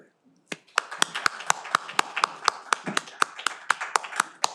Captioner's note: all applaud